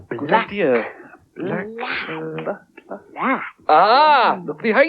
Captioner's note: muttering